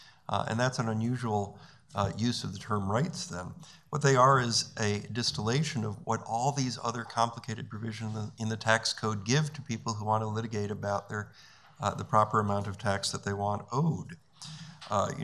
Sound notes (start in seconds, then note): none